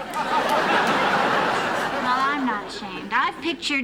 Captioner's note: laughter